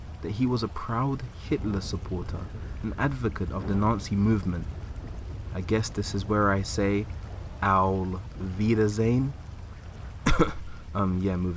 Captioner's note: cough